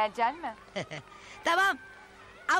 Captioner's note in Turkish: Gülme sesi